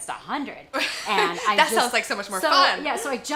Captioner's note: laughs